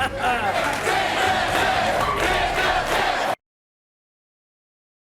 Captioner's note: audience chanting